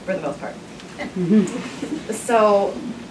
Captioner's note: laughter